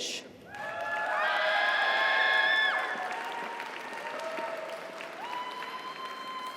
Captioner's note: audience applauds; audience cheers